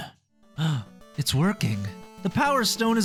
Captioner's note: gasp